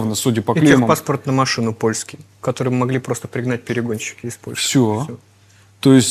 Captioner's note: Ukrainian